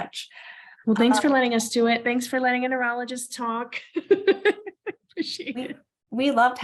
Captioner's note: laughs